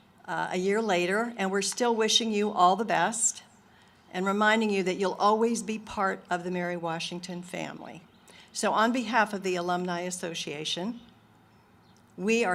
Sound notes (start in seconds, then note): none